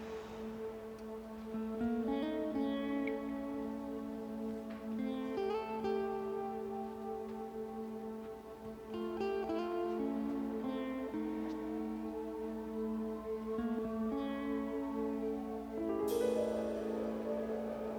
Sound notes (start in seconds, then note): 12.7 siren wailing